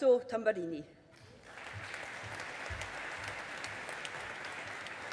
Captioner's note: audience applauding